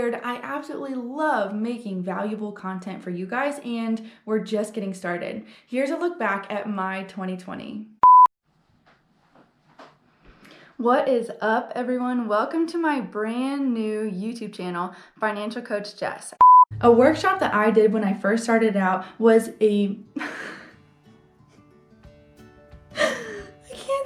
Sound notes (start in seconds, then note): 8.0 color bars beep; 16.4 color bars beep; 20.4 laughing; 20.5 gentle music